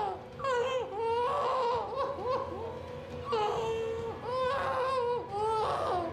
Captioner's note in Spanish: gritos